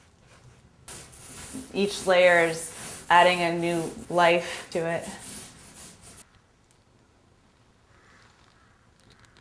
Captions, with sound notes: Each layer's adding a new life to it. (Sound of paint being rolled on)